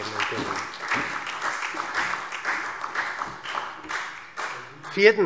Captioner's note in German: Beifall SPD